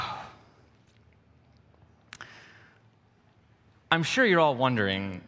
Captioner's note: sigh